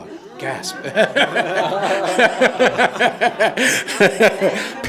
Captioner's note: all laughing